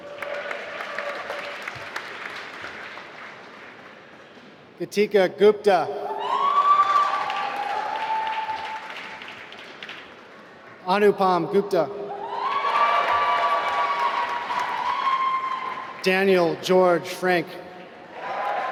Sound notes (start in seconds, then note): 0.0 applause; 6.2 applause; 12.2 applause; 17.7 applause